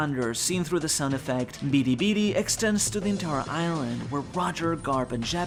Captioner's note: ビリビリ